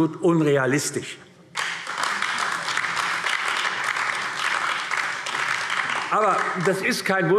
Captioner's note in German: Beifall AfD